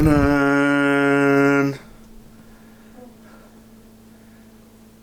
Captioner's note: imitating dramatic music